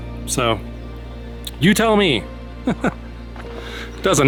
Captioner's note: laugh